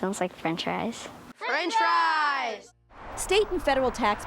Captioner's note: shouting together